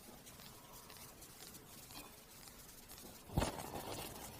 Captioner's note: sound of spinning turntable and needle being set down